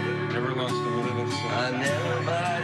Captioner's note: quietly